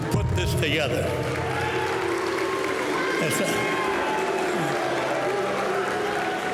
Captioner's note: crowd cheering and applauding